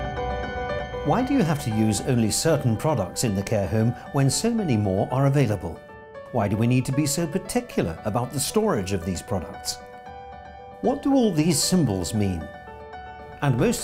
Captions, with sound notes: - [Voiceover] Why do you have to use only certain products in the care home when so many more are available? Why do we need to be so particular about the storage of these products? What do all these symbols mean?